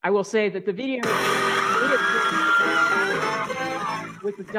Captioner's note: crowd screaming; music blares